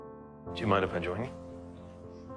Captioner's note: voiceover